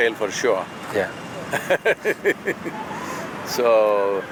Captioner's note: laughs